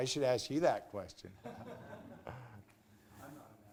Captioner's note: laughter